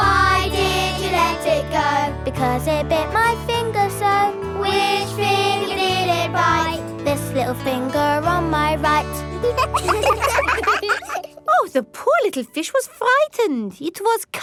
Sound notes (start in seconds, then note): 9.3 children laugh